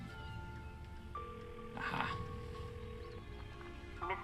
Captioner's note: phone ringing